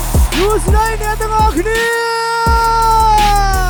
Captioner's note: crowd cheers